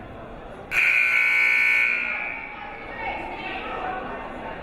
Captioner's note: buzzer blares